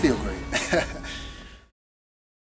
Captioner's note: laughs